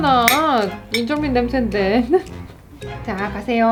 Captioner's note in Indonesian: tertawa